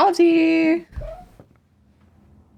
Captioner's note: Olive chirp